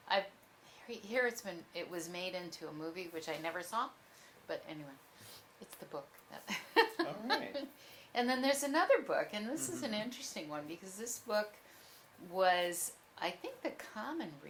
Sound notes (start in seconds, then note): 6.3 laughs